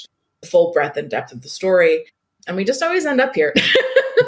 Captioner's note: laughs